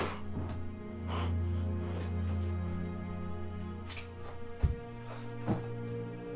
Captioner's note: tense music continues; Alan gasping